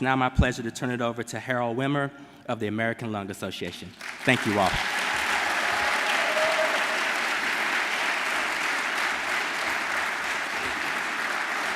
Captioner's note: applause